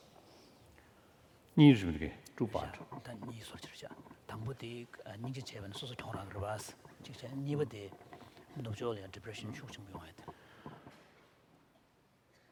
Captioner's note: foreign Language